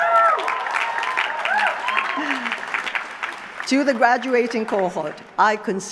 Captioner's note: laughter; applause